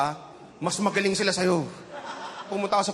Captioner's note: chuckling